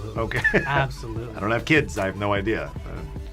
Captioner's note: laughs